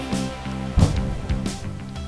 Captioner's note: boom